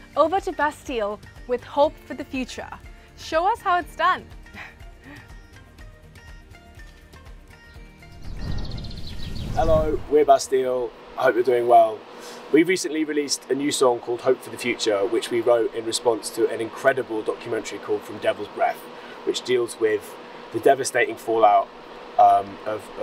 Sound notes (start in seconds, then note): 5.0 chuckling; 5.7 bright gentle music